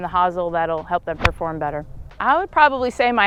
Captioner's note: golf ball smacks